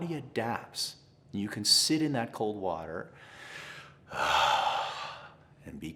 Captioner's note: exhales